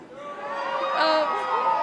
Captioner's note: crowd cheering